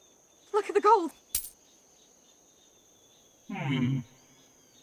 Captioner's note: coins clinking